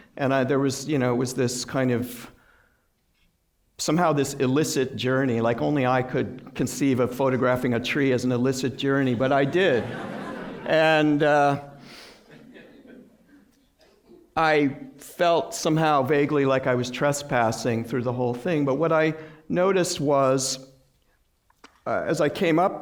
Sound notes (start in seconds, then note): 9.2 laughter